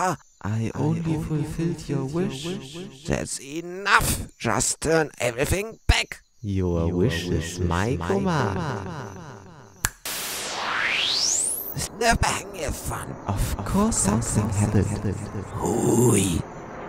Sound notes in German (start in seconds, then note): 9.8 Schnips